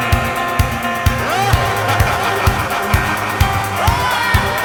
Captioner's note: laughing